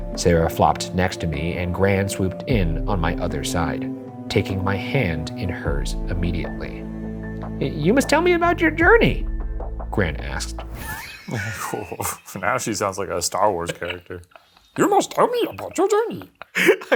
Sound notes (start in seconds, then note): 6.9 suspenseful music; 10.8 laughing